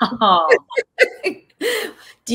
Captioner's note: laughing